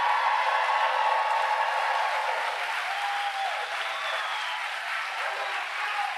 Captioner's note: applause